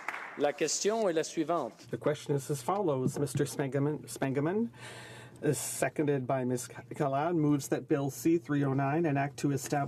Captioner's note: applause